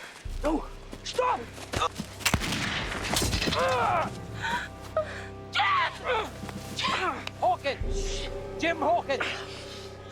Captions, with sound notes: - No, stop! (gun firing) (Jim yelping) - Jim! Jim! - Hawkins, Jim Hawkins!